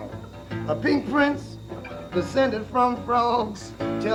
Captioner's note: tape playing